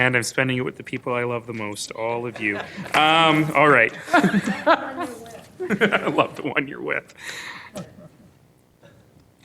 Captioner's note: laughter